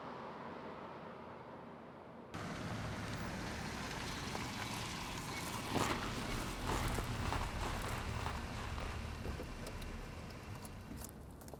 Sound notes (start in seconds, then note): 2.5 car humming